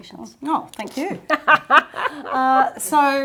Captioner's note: laughs